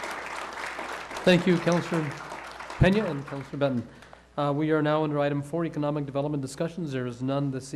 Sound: applause

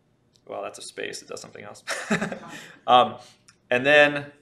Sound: laughs

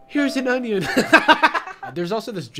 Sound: laughs

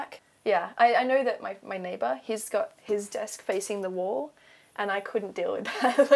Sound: laughs

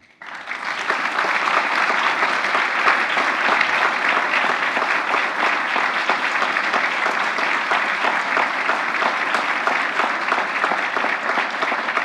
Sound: applause

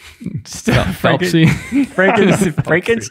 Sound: all laugh

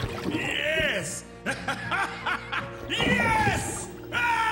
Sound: evil laugh

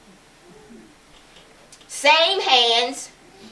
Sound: none

